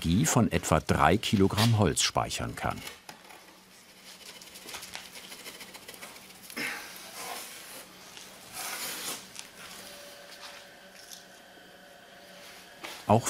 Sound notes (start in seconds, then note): 4.1 slight rattling; 6.4 snorting